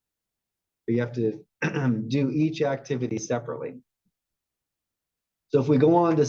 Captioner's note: cough